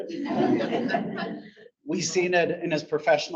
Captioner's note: audience laughs